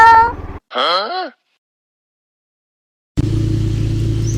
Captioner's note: in silence